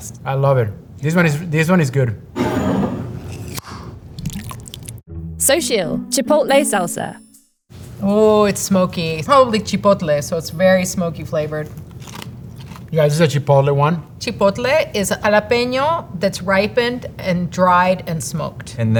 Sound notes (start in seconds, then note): 2.3 jar sliding; 2.3 lid opening; 3.9 salsa pouring; 11.7 mouths crunching